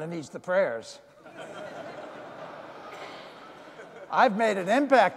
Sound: audience laughing

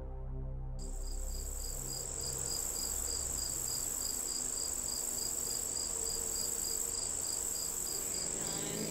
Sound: ambient Nature sounds

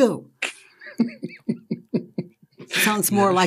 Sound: laughs

